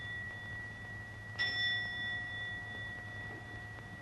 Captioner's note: clock chiming